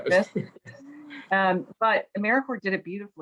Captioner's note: chuckles